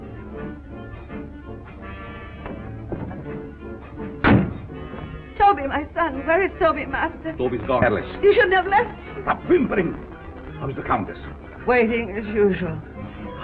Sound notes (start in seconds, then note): 4.1 door bangs